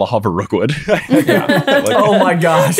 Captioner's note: laughing